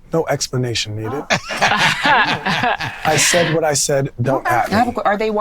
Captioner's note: men laughing